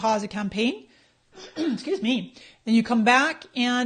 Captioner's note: clears throat